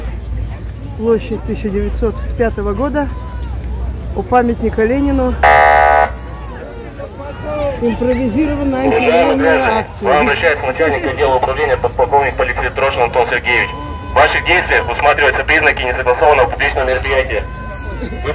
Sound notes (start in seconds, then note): 6.1 shouting "Shameful" from the crowd